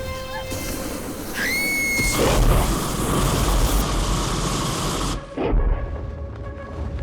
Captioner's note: dragon roars; Guine screams